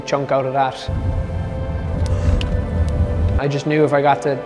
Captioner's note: car engine revving